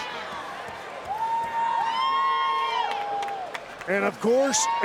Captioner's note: crowd cheering